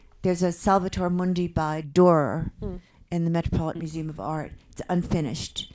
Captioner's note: none